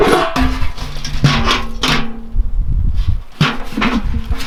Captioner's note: bark rustling; metal bucket rattling